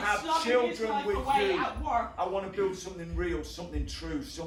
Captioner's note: heartbeat